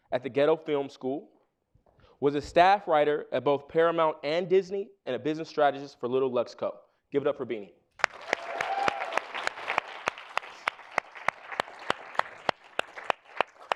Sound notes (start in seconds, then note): 8.0 audience applauding